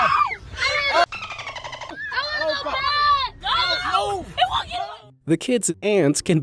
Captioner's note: bird chirps